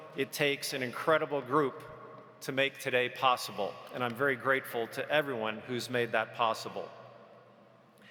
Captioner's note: none